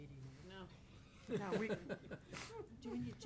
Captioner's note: all chuckle